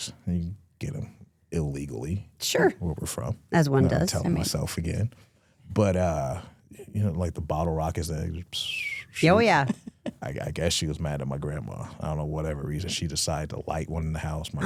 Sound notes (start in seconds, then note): 8.4 hums